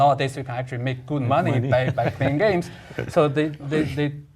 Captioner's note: laugh